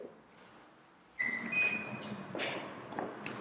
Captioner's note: door swings open